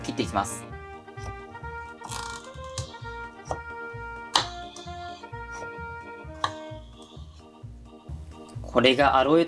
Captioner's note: sound of aloe vera being cut